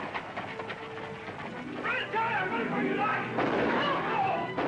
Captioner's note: gunshots